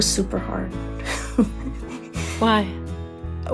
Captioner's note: lightly chuckles